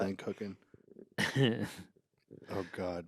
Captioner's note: Ian chuckles